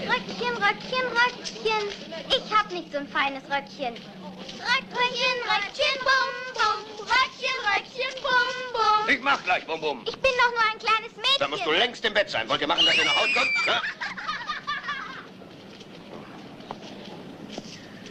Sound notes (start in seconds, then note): 12.8 screaming and laughing